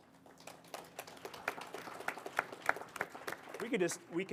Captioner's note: audience applauding